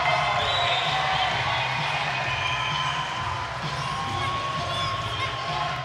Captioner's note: audience cheering continues; drum music